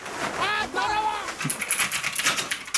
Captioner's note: scratching